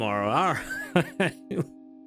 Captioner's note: laughs